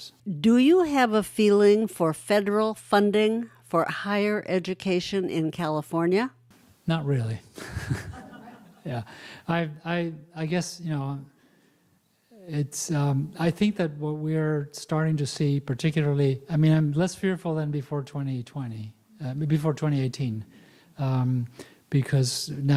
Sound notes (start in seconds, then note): 7.6 laughs